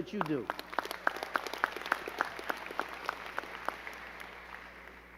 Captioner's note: crowd clapping